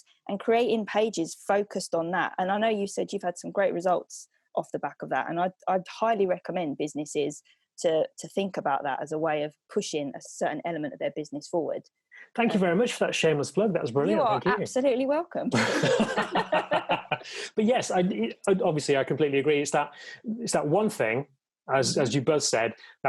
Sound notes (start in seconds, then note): 15.5 laughing